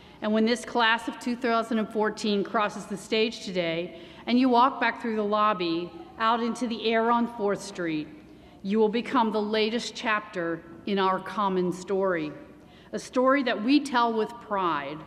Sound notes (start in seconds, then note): none